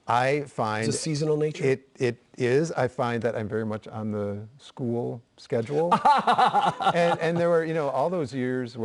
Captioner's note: laughter